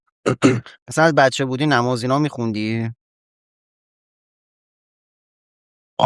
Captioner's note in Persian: گلویش را صاف می‌کند